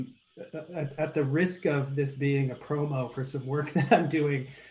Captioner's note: chuckles